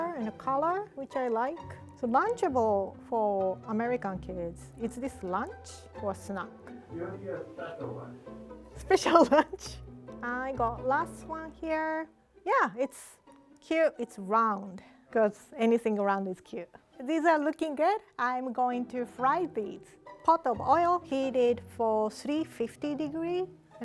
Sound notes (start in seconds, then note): 8.9 laughing